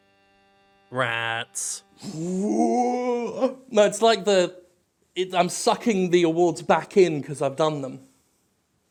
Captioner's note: vacuum noises